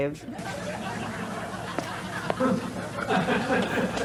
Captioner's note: audience laughter